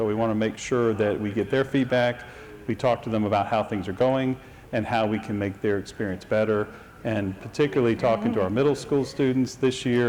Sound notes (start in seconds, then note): none